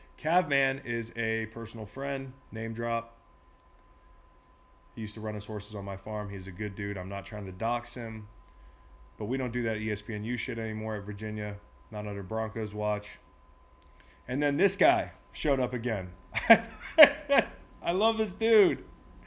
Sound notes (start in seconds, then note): 16.4 laugh